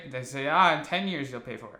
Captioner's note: none